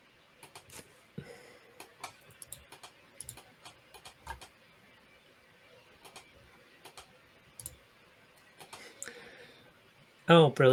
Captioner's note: more Clicking